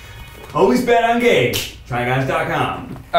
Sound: magical music; snapping fingers

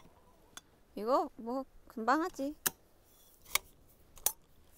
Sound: confident

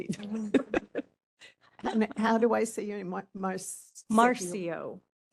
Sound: laughing

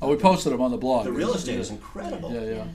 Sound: voiceover

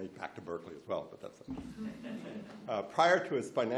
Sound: laughs

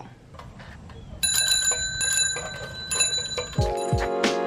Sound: bike bell rings

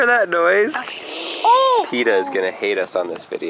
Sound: hissing

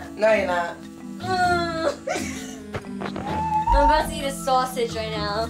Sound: Snooki crying; JWoww laughing

